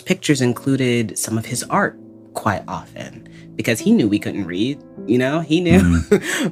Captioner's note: laughs